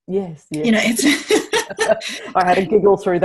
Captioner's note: laughs